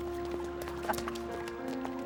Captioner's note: chuckles